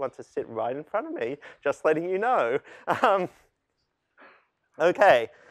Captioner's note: laughter